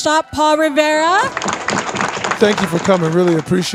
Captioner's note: audience clapping